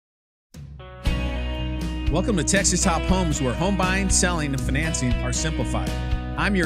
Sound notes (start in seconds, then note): 0.8 instrumental country music; 2.5 voiceover